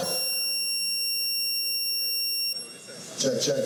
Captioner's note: speaker feedback